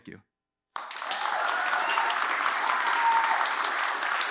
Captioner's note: applause, cheers